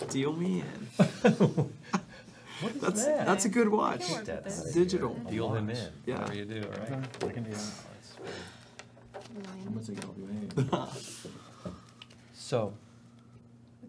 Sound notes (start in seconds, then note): 1.1 laughing